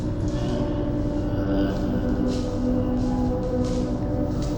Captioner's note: footsteps in leaves moving away